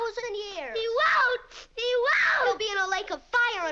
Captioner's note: screaming